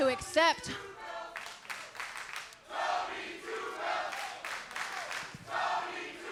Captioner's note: crowd chants and claps